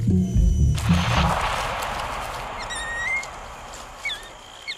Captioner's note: scary music; orangutans squeaking